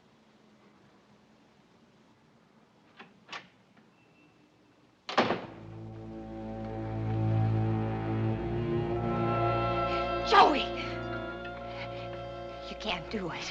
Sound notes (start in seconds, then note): 2.5 door opens; 5.1 door closes